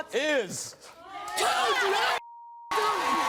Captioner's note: beep